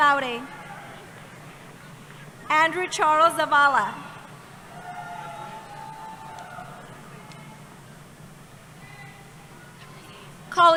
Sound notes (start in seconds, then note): 4.6 cheering